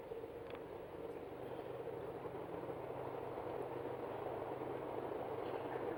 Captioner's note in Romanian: Sunetul trenului